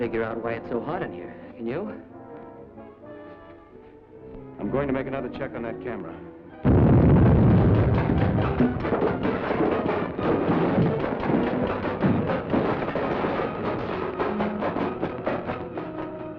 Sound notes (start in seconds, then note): 7.1 explosion; 8.8 crackling